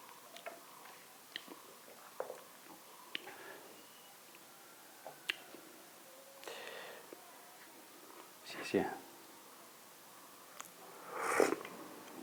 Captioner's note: sips tea